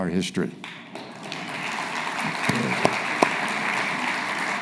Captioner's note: audience applauding